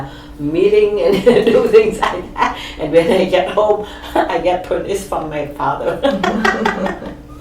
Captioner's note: laughs